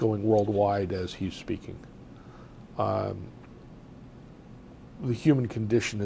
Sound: pauses for 3 seconds

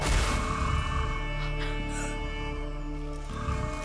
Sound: gasping

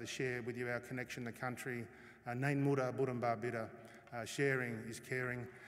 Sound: non-english speech

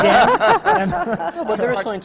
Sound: laughter

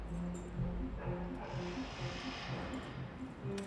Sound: keys dangling

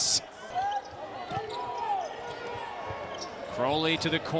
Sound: crowd

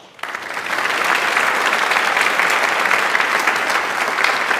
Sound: audience applauds

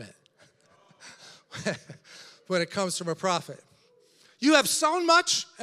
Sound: laughs

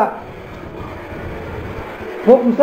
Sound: dragging noise

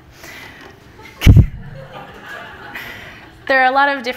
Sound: everyone laughing

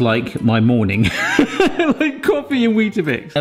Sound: laughing

